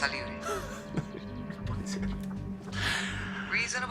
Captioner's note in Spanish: Ríe